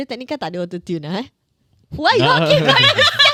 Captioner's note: silence